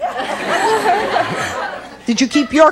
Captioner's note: audience laughs